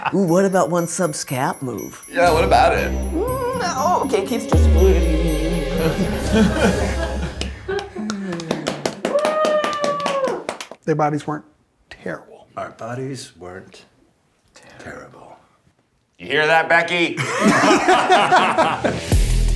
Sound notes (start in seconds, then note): 3.2 whimpering; 7.3 everyone clapping; 17.2 everyone laughing; 19.3 energetic electronic music